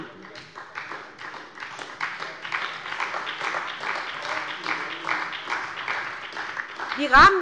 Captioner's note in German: Beifall bei der SPD